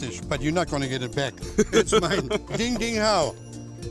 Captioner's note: laughs